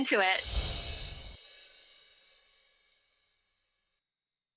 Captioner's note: chimes tinkling